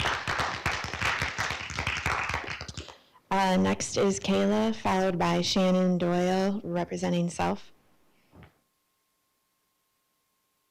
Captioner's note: applause